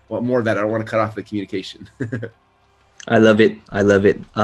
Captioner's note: laughs